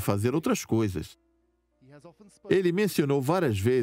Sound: voiceover

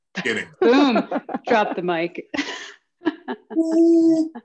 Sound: laughs

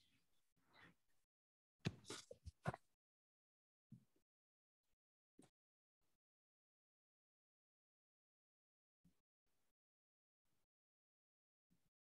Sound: silence

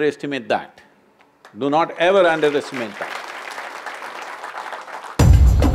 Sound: applause

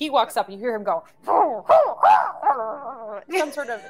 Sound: grunting

